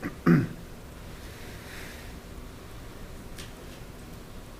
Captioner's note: someone clears throat